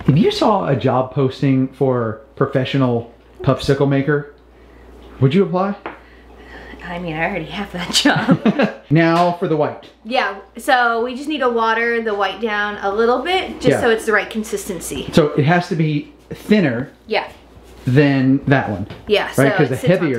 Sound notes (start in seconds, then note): 8.0 laughs